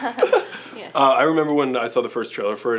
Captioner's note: laughter